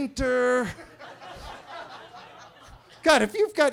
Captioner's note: attendees laughing